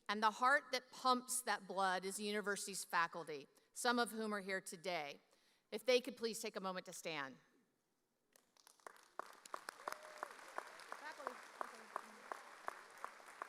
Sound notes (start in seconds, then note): 8.6 audience applauding